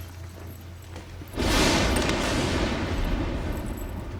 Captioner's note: thunder & lightning